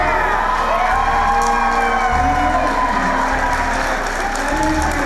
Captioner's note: crowd applause